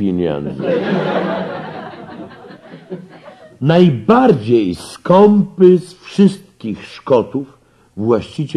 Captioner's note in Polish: śmiech